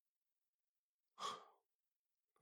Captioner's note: exhale